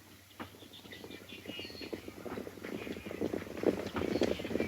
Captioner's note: horse hooves clomping